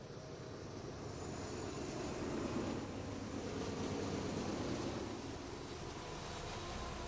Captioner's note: approaching train